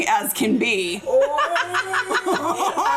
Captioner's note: all laughing